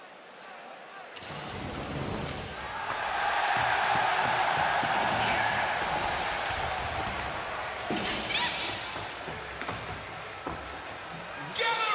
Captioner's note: crowd cheering